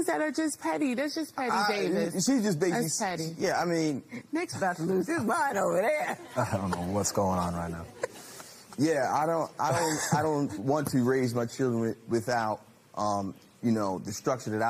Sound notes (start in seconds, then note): 9.6 laughs